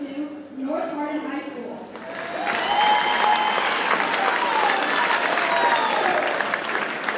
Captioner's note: audience cheers and applauds